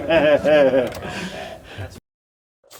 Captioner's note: spectators laugh